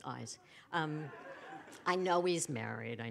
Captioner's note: laughter